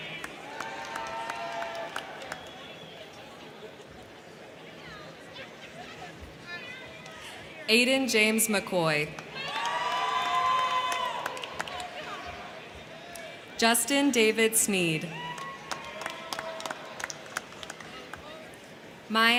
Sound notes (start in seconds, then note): 0.0 crowd clapping; 0.0 crowd cheering; 9.1 crowd clapping; 9.1 crowd cheering; 14.9 crowd cheering; 15.2 crowd clapping